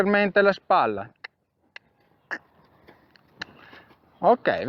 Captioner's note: cluck